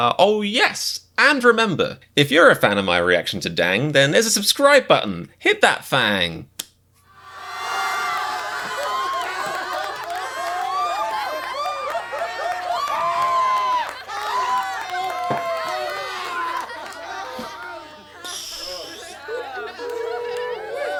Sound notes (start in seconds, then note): 7.1 A crowd laughing sound effect plays as an outro